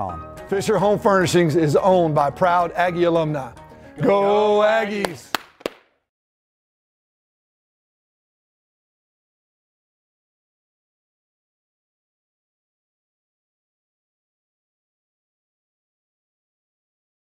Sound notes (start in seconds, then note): 4.8 clap; 7.4 silence